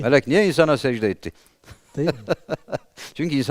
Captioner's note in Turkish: kahkaha